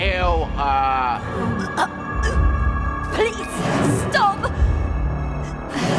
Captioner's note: choking